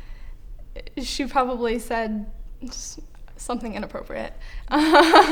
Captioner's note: laughter